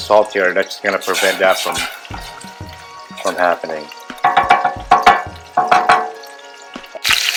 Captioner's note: spoon clangs on pot; chicken sizzles